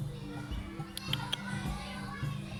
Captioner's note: birds chirping, people chattering; clicks tongue; birds chirping, people chattering